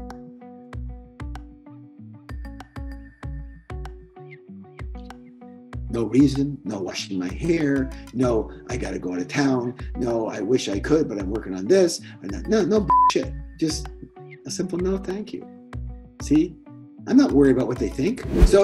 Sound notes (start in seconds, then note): 12.9 beeping